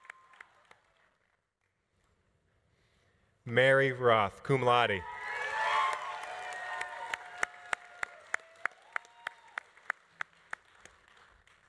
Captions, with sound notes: Mary Roth, cum laude. (audience applauding) (audience cheering)